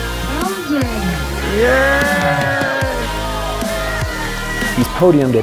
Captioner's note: crowd cheers